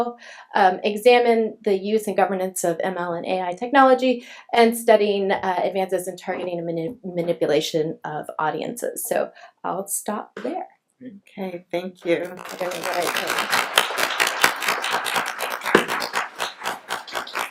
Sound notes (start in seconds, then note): 12.2 applauding